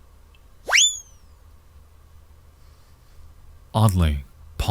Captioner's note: bright tones; whizzing sound